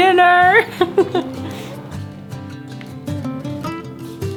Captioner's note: laughing; string music continues